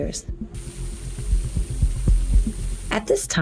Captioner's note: flowing water